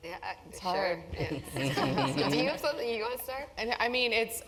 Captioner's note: laugh